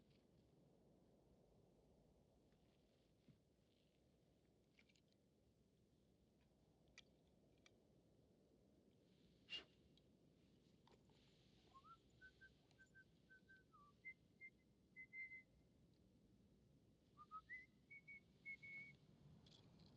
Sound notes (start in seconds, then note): 11.7 whistling